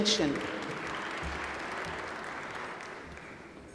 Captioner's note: applause